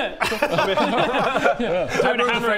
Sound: bloodthirsty giggles

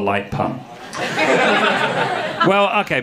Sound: audience laughing

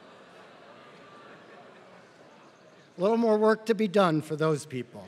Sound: laugh

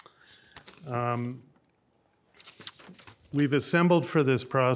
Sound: paper rustling

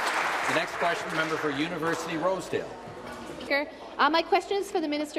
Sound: applause

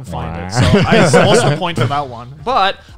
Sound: laughs

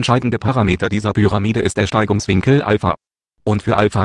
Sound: German

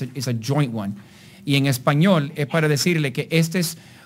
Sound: speaking in Spanish

